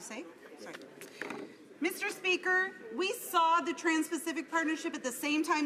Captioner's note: some Applause